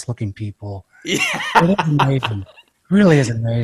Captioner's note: laughs